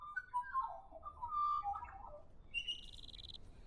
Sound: australian birdsong, insects chirping

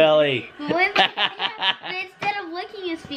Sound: laughs

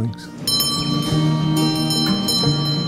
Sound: bell ring

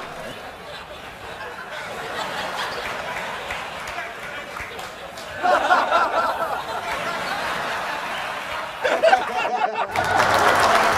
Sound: audience applauds; audience laughs

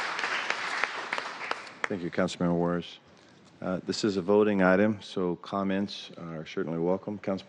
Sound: applause

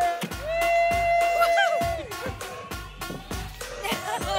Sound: cheering

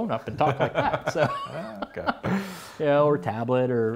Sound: laughs

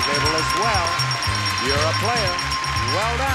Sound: bell rings

